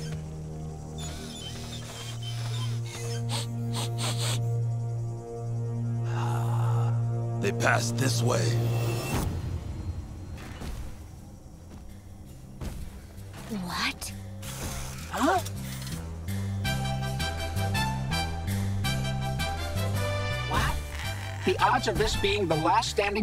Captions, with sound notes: [sniffing] Ah, they passed this way. What? Huh? Wow, the odds of this being the last standing structure